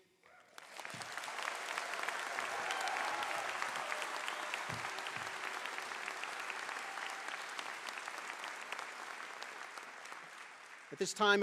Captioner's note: applause